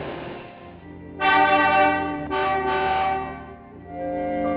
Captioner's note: horn honking